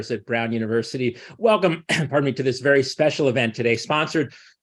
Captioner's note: coughs